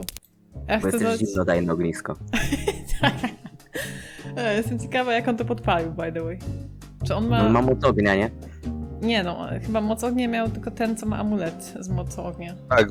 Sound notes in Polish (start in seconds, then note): 2.3 śmiech